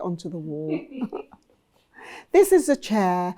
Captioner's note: person laughs